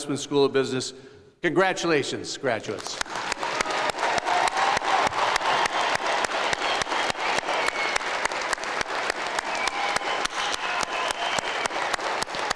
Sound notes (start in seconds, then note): 3.2 cheering and applause